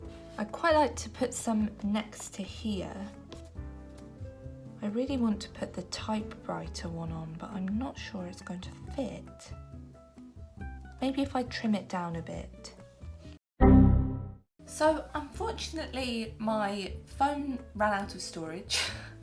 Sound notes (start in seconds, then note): 13.6 Microsoft error noise